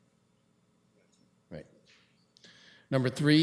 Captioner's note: clerk speaks off mic